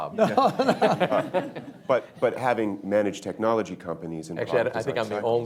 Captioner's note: laughter